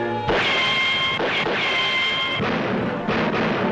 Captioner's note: gun pops